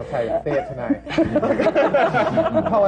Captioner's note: laughter